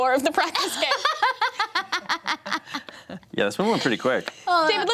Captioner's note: everyone laughs